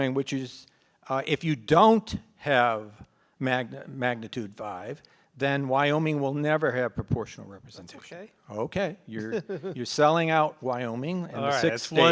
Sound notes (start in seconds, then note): 9.2 laughs